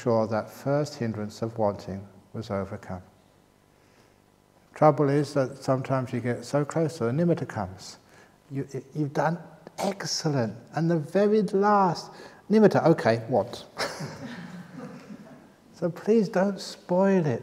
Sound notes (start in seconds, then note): 13.7 laughter